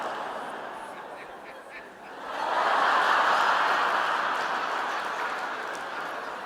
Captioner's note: audience laughing and sighing